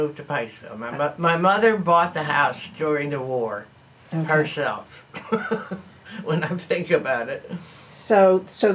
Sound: laughs

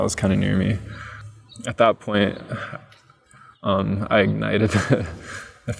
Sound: chuckles

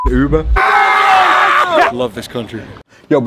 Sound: screaming

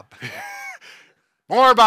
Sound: laughs

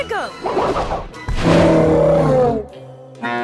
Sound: roaring; mooing

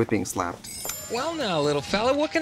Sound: twinkling

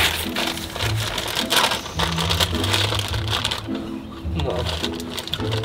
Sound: bag rustles open

